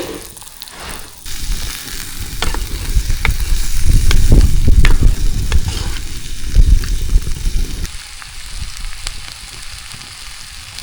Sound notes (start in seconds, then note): 2.0 sizzling; 8.7 sizzling